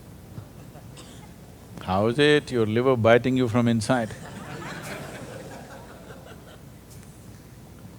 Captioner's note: laughter